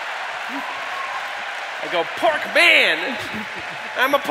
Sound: laughter

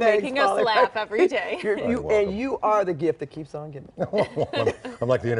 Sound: laughter

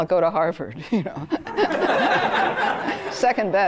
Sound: laughter

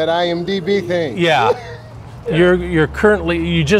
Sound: laughter

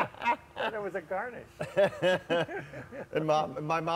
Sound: all laugh; all laugh

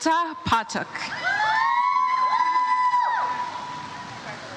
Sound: audience cheers

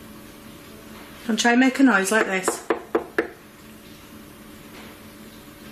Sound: knocks

